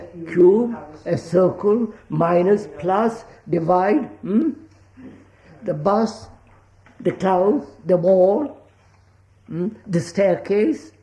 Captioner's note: laughs